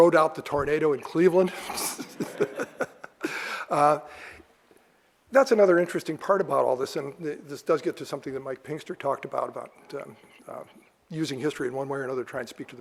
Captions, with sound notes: rode out the tornado in Cleveland. (laughs) That's another interesting part about all this, and this does get to something that Mike Pinkster talked about, about using history in one way or another